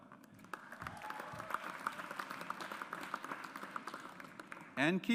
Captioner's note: audience applauds